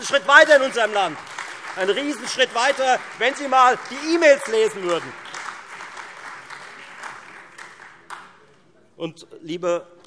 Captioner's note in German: Beifall Freie Demokraten, SPD und AfD